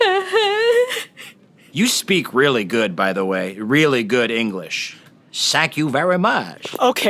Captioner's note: exaggerated Asian accent